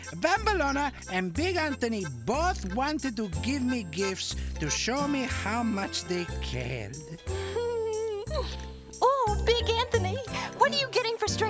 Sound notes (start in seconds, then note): 7.0 giggling